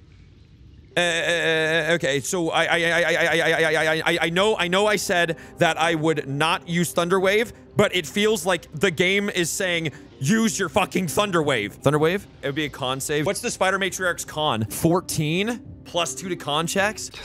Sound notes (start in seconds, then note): 1.0 stammering